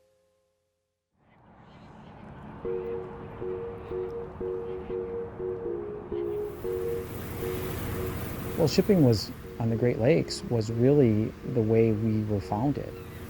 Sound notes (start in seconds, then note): 4.7 lighthearted music; 4.7 wind and waves blowing